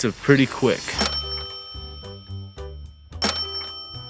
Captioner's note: alert chiming